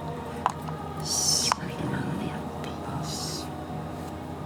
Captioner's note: whispering